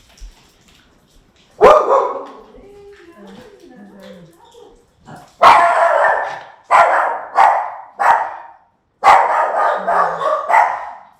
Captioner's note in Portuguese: cachorro latindo